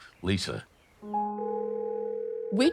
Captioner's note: phone ringing